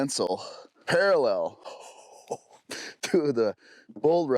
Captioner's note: laughing